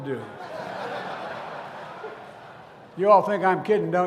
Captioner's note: laughter